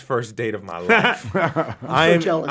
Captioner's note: all laughing